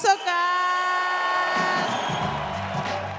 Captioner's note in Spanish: Aplausos